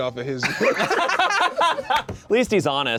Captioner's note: laughs